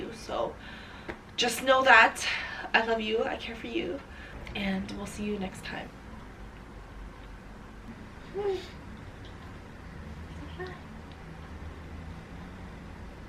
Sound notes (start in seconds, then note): 8.5 giggles